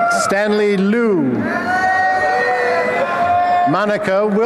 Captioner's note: applause and cheering